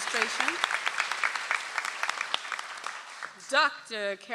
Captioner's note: audience applauds